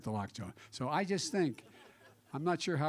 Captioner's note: laughter